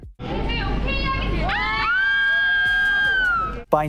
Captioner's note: screaming